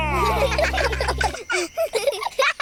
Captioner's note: children giggle